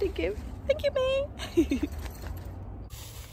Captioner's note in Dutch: gelach